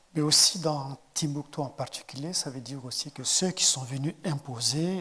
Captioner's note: speaking in French